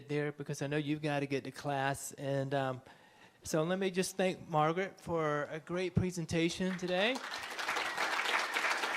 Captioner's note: applause